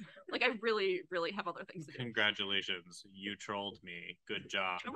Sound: in a deadpan voice

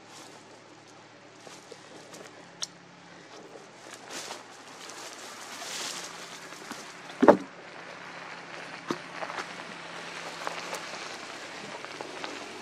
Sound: leaves and branches crackling, wood knocking on wood, car passing

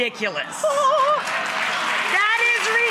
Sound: audience applauds

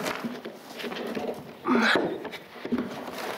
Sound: she groans

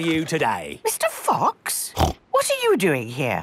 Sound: snorts

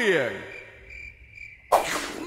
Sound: crickets

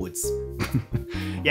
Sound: chuckles

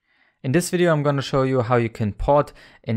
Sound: voiceover

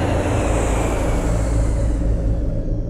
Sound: airplane Landing

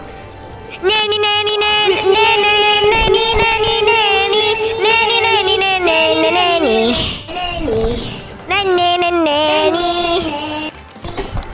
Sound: breaths

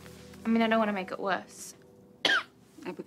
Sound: coughs

